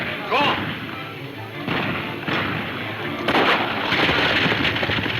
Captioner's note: gunfire pops